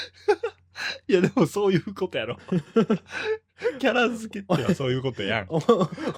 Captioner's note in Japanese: 笑い